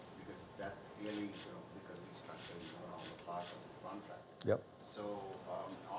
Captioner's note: speaking faintly